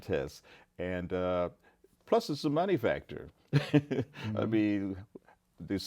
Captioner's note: laughs